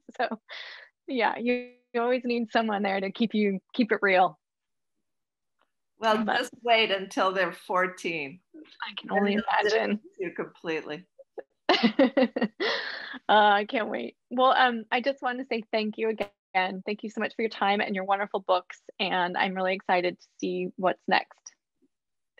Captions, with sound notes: So yeah, he always need someone there to keep you, keep it real. - Well, just wait until they're 14. - I can only imagine. - Yeah completely. (laughs) - I can't wait. Well, I just wanted to say thank you again and thank you so much for your time and your wonderful books. And I'm really excited to see what's next.